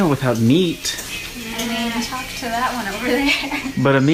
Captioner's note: laughs